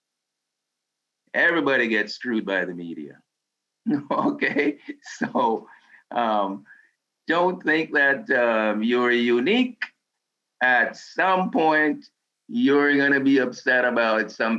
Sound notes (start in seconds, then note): 3.8 laughs